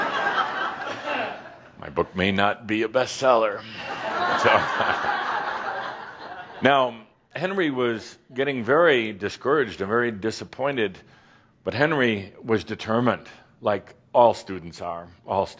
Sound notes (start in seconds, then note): 0.3 laughter; 3.6 more chuckles